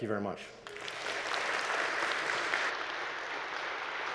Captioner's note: audience applauds